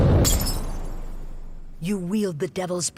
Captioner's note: glass cracking